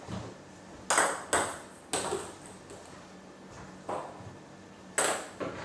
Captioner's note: balls ping pong hitting continues